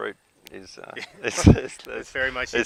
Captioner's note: laughter